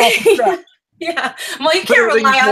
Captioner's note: laughs